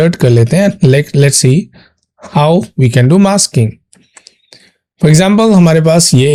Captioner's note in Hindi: नाक से की जाने वाली आवाज़